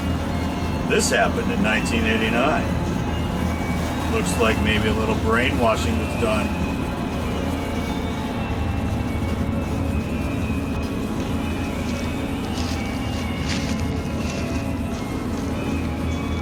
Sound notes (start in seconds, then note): 13.1 footsteps on dry leaves